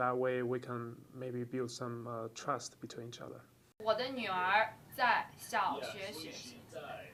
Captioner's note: speaking in Chinese